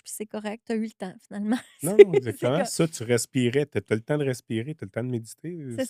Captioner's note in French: rires